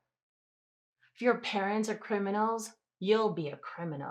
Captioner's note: none